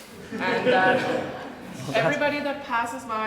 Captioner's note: audience laughs